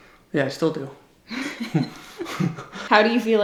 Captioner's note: giggles